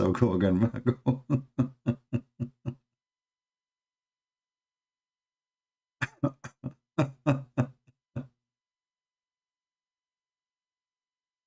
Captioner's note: Ketawa